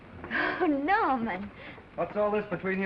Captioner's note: laughs